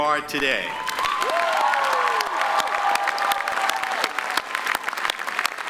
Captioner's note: graduates applaud